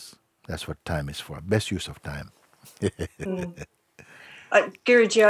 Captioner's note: laughs